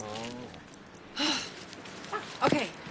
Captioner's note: sighs